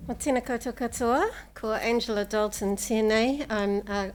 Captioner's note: speaking Maori